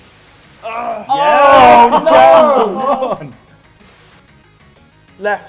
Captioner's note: men shouting and laughing